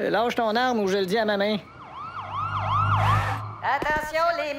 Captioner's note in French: Sirène de police